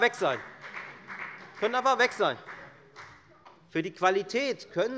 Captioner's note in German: Beifall bei der FDP